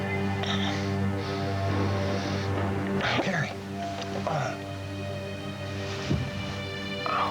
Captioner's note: breathing